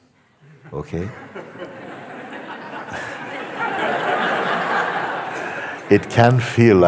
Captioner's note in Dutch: gelach